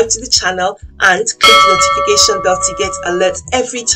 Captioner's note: bell rings